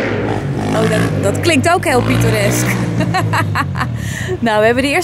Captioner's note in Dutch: geluid van een motor